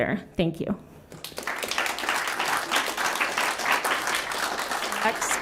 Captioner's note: applause